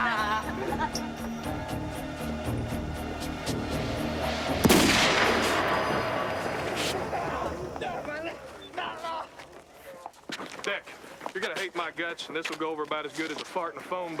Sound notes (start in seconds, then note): 4.2 gun fires